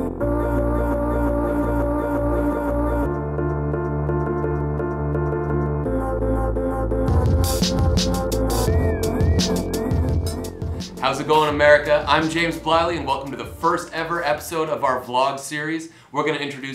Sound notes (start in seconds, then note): none